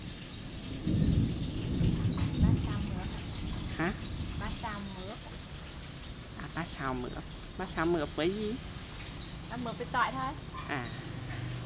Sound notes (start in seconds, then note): 0.7 thunder growling